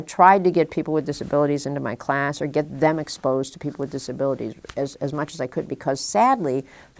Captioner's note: none